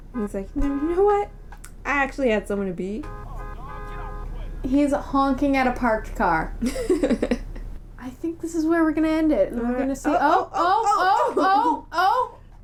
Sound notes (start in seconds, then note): 6.6 laughter